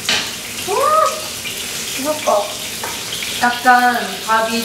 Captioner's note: excited